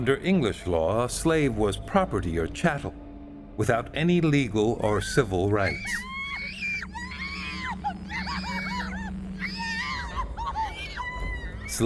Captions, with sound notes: -Under English law, a slave was property, or chattel, without any legal or civil rights. -[ Screaming ] -[ Crying ] No! -[ Screaming continues ] -No! No! No!